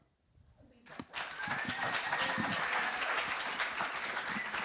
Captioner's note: applause